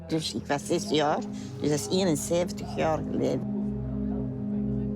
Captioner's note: speaking foreign language